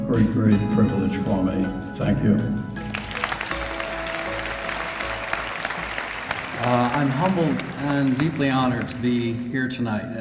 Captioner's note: applause